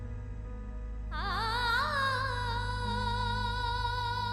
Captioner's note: emotive vocalisation